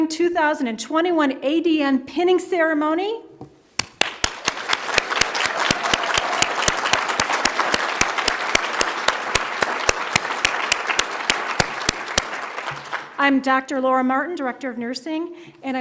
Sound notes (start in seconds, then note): 4.5 audience applauds